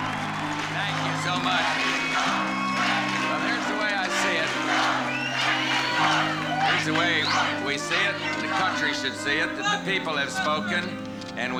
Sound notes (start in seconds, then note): 0.2 crowd chanting; 4.1 chanting continues